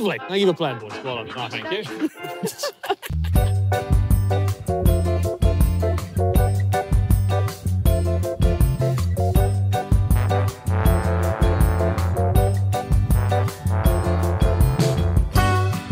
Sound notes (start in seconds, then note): 1.5 everyone laughing; 6.7 outro music